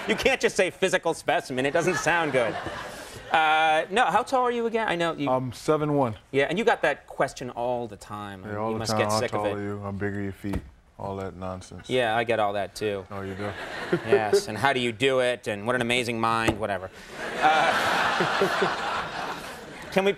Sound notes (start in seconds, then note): 1.8 audience laughter; 13.3 audience laughing; 17.1 laughter